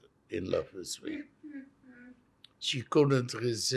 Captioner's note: laughing